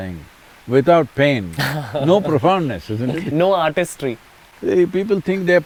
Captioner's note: laughs